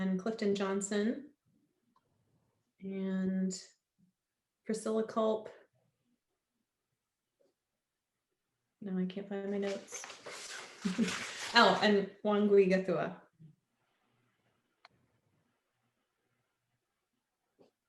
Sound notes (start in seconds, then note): 10.8 laughter